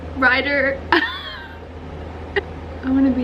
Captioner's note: laugh